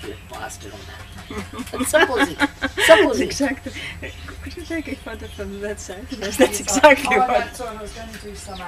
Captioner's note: laughter